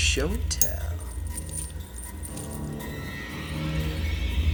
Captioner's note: chain clanking; uneasy music